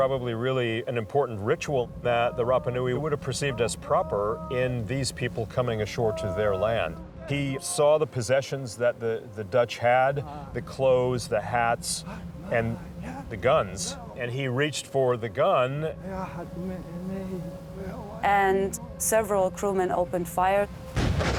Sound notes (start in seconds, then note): 15.8 man speaking Rapanui; 20.9 gunshots firing